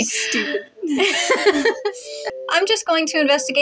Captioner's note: laugh